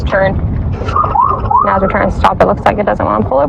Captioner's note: pololicice sirens